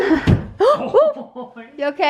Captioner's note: gasps; thud